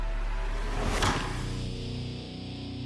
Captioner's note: thuds